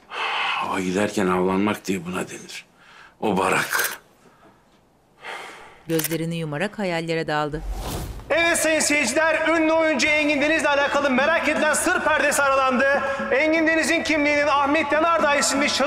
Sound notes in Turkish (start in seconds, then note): 5.9 Fotoğraf çekme sesi